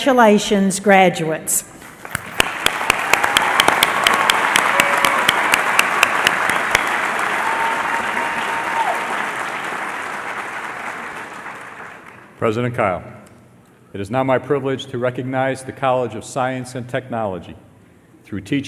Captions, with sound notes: >> Congratulations, graduates. [ Applause ] >> President Kyle. It is now my privilege to recognize the College of Science and